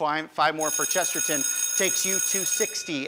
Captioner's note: bell ringing